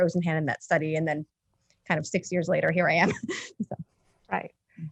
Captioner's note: chuckles